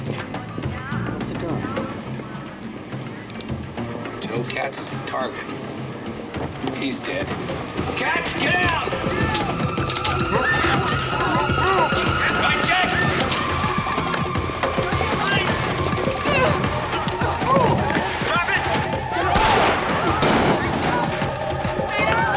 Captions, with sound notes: - What's he doing? - Joe, Katz is the target. He's dead. Katz, get down! Rycheck! Freeze! (grunting) - Drop it!